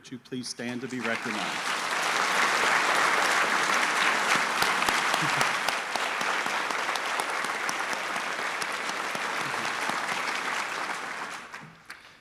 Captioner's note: applause